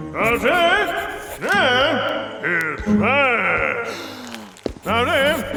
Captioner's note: Pharaoh speaks in angry gibberish